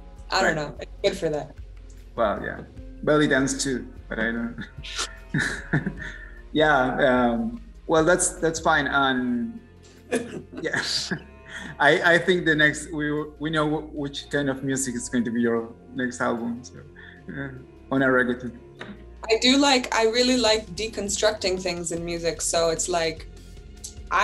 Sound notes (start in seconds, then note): 10.1 laugh